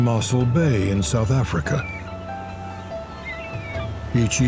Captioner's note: seagulls squawk